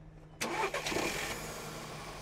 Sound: car engine starts normally

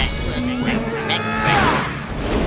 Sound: grunting

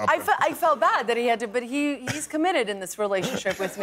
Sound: laughter

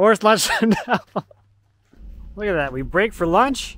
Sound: laughs

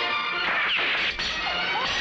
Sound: gunshot

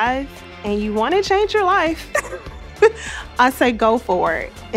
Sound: laughing

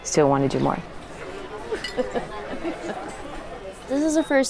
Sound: glass clicking

